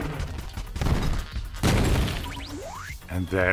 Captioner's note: crash